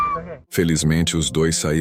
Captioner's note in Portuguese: grito